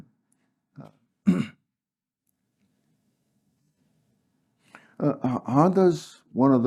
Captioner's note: cough